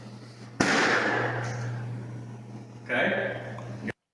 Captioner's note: balloon pops